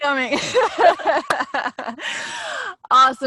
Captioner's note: both laughing